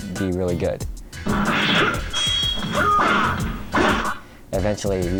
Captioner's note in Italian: suoni del gioco